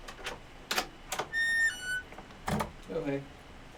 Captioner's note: door creaks open